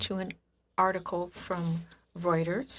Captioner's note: speaking French